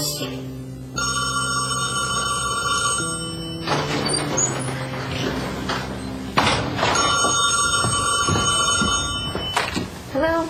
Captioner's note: phone ringing